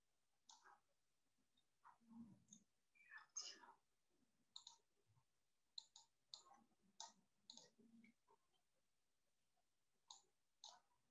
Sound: silence

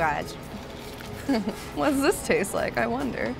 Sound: giggles

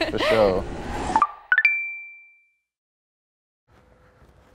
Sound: ascending beeping

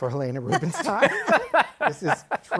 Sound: laughter

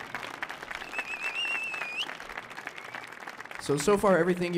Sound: applause

